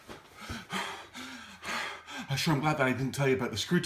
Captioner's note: breathing heavily